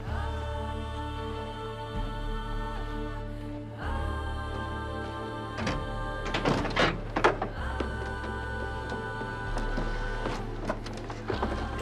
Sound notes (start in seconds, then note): 5.4 door opening